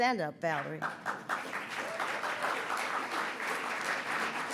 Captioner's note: audience applauds